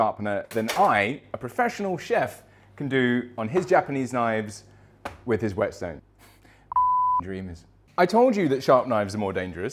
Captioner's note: beep